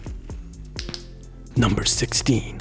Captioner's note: click